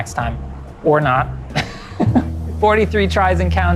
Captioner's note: laughs